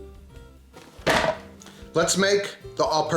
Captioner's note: mixer bangs